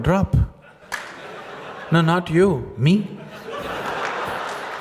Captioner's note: laughter